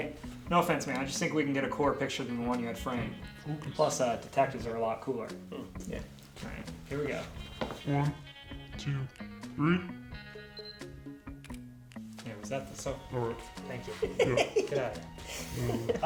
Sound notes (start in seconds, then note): 10.3 phone beeps; 15.3 chuckles